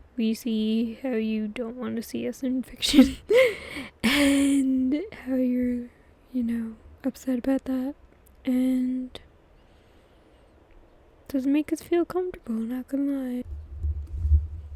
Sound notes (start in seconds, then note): 4.8 laughs